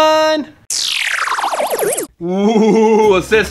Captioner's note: futuristic noise